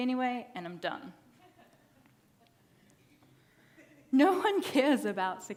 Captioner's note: audience laughing